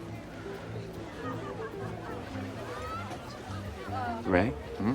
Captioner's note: buoyant music; patrons chatter